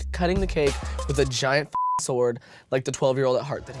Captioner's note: beep